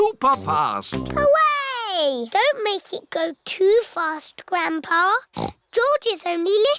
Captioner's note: snorts